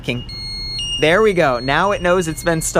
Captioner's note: alarm beeps